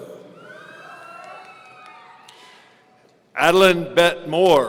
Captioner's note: audience cheering